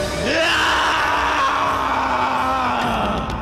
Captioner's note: screams